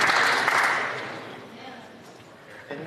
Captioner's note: applause